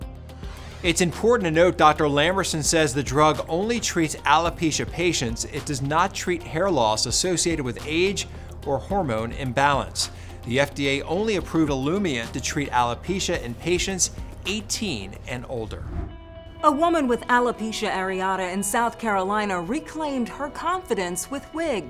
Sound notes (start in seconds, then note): 0.0 soft upbeat music; 15.7 logo swooshing